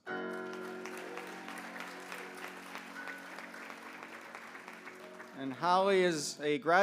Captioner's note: applause